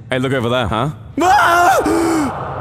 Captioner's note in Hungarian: Sikoly